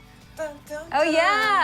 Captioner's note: hums